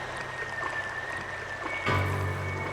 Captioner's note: whistle